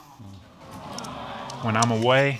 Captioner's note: audience coos